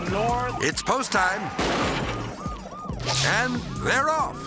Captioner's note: car hitting post